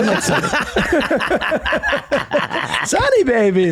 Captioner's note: all laugh